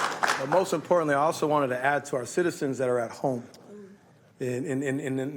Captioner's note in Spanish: aplausos